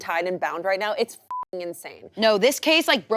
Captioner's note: beep